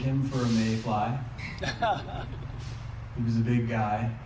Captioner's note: laughter